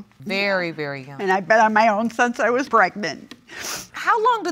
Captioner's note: sniffs